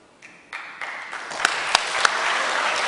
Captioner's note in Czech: potlesk